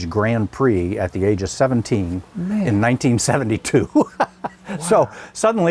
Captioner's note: chuckles